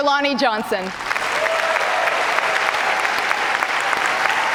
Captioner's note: cheers and applause